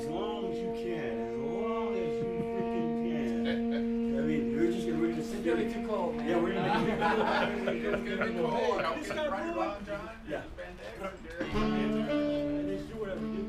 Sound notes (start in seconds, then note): 9.1 group chattering